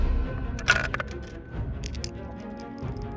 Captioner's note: dice rolling